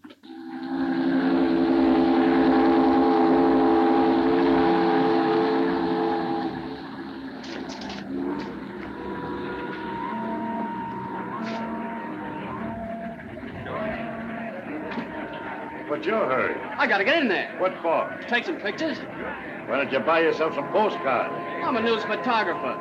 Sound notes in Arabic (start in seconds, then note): 0.2 صوت بوق السفينة; 12.3 الناس يتحادثون